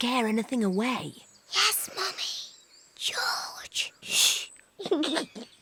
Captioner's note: whispers; giggles